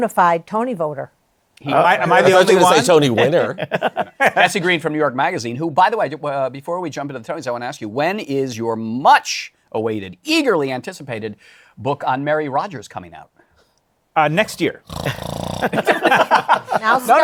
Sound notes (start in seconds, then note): 14.8 snores; 15.6 laughter